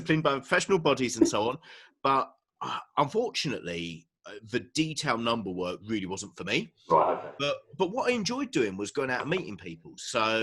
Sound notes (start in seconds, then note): 6.9 murmurs